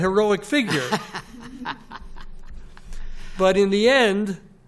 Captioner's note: laughter